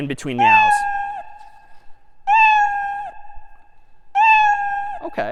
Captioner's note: میو زدن